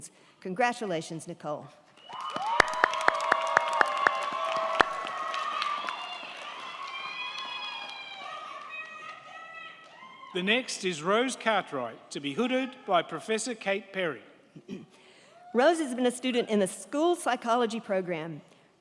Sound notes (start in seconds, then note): 2.0 crowd clapping; 2.0 crowd cheering